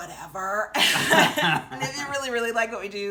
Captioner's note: laughing